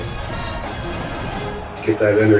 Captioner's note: crowd Noises